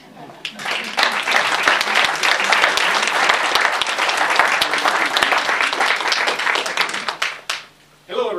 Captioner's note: audience Applauds